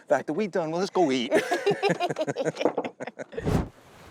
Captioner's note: both laugh